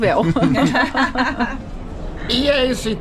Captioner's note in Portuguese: risos